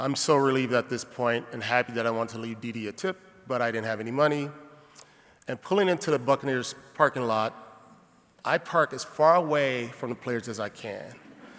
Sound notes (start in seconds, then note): none